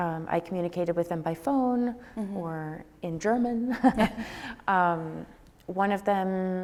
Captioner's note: laughs